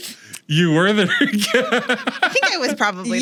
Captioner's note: laughs